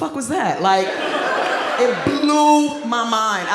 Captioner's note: audience laughs